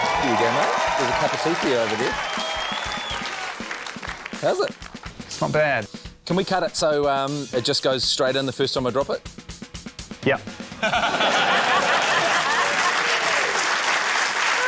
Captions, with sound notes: There you go, mate. There's a cup of tea for you over there. How's it? - It's not bad. - Can we cut it so, um, it just goes straight in the first time I drop it? - Yup. (LAUGHTER) (APPLAUSE)